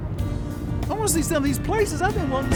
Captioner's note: none